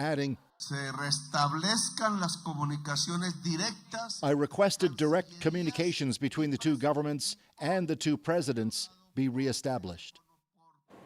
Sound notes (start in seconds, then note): 3.0 speaking alternate language